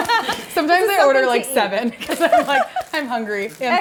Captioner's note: laughs; laughs